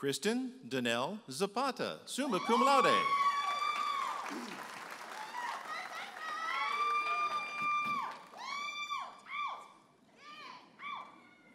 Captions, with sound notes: Kristen Danelle Zapata, Summa Cum Laude. (audience applauding and cheering)